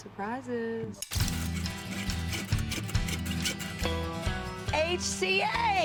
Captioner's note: sawing